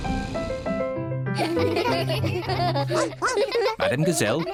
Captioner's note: all laugh